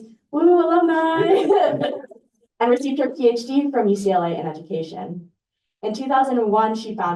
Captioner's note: laughter